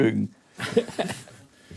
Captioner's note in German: lacht